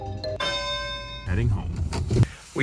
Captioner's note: bell dings